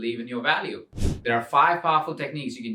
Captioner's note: air whooshes